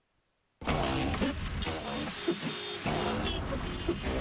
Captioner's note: squeaking